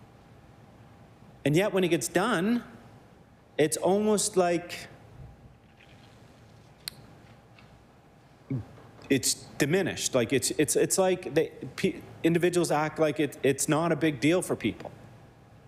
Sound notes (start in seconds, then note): none